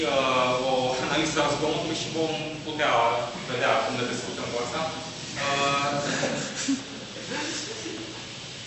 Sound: laughter

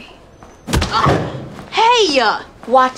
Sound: thud

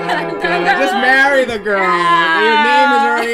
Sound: laughs

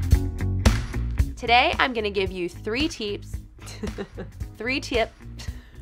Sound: upbeat music; giggles

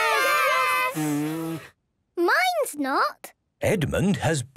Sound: blows; blowing, fluttering

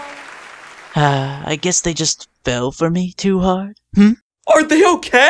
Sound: sigh

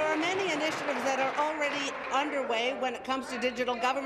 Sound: applause

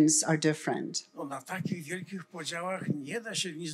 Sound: foreign language

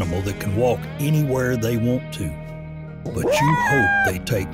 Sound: coyote howls

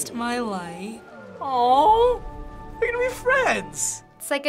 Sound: in game: speaking foriegn language; cooing

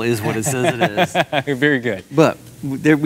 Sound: laughs

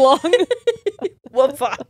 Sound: both laugh

